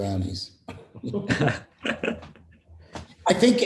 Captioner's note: laughter